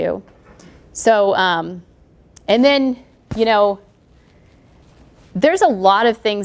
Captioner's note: pause